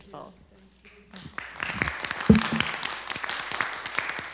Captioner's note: applause